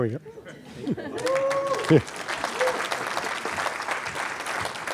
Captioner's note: applause